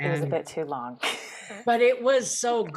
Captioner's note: laughs